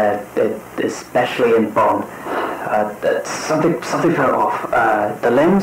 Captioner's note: sighs